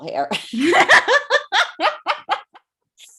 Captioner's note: laugh